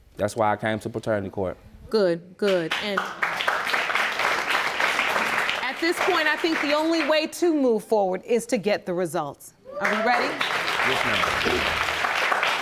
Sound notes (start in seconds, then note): 2.8 audience applauding; 9.8 audience cheering